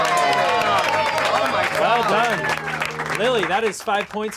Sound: clapping, cheering x6

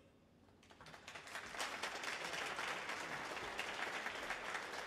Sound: audience applauds

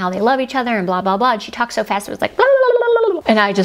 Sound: gabbling

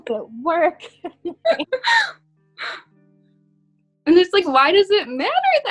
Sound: both laughing

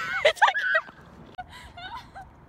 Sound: screams; laughing

